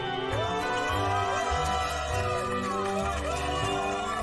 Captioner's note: cheering and applauding